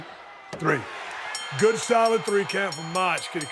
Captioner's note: crowd cheering; bell ringing